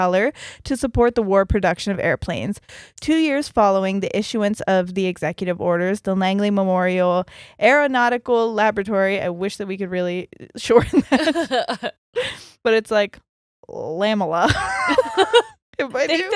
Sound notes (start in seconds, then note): 10.9 both laughing; 14.4 both laughing